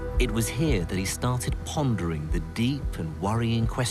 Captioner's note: voiceover